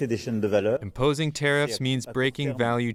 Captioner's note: through translator